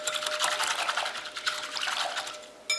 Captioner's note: whisking